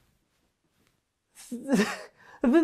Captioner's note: baffled sounds